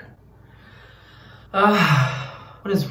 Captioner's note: exhales and moans